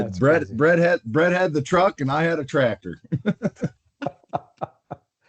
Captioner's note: laughter